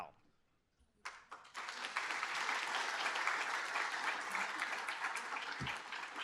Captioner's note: applause